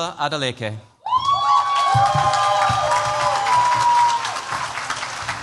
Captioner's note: cheers, applause